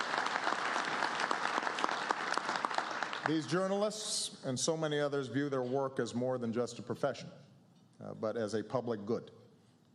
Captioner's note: applause